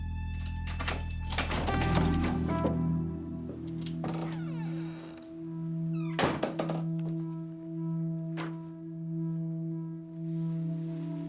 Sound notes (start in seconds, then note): 0.4 lock clicks; 4.2 door creaks; 5.9 door closes